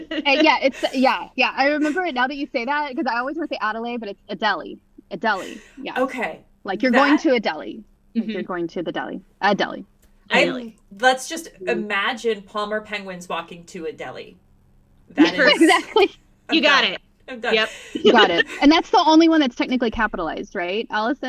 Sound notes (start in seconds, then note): 15.2 laughter